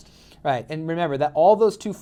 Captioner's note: voiceover